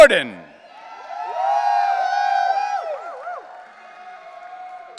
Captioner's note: audience cheering